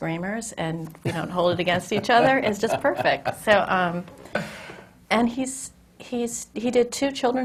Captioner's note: laughs